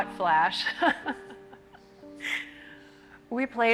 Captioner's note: presenter laughing